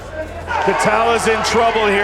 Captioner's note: crowd cheering